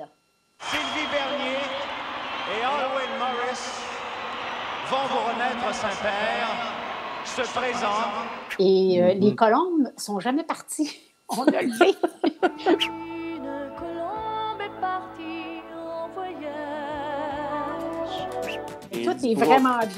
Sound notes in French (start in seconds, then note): 11.3 rires